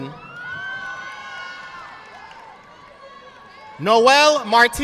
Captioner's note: audience clapping